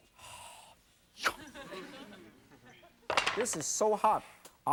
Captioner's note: audience laughs